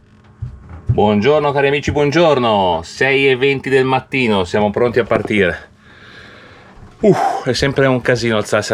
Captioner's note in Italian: sospira